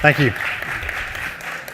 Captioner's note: applause